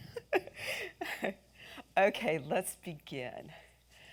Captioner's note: inhales